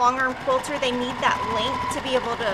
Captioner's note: machine whirrs